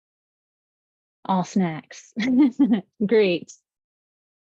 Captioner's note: laughs